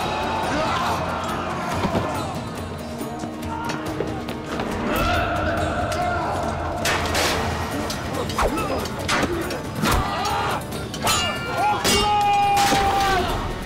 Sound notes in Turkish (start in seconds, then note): 0.2 Müzik - Gerilim; 7.2 Bağırma sesleri; 7.2 Kılıç sesleri